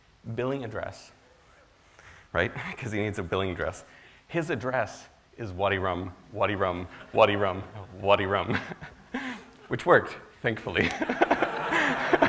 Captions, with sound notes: billing address, right, because he needs a billing address. His address is (speaks foreign language) which worked, thankfully.